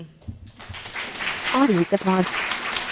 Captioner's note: applause